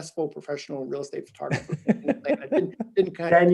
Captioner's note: laughing